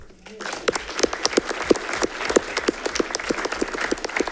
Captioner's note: audience clapping